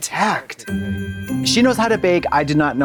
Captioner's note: festive chime